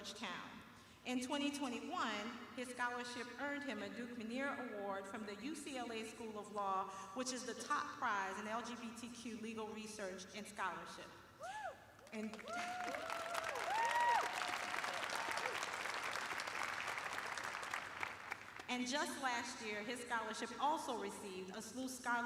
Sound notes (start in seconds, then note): 8.2 cheering; 12.0 applause